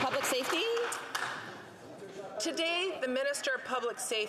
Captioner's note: some Applause